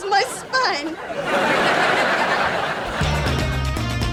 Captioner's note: laughs